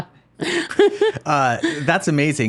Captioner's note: laughing